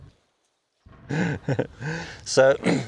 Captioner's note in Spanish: risas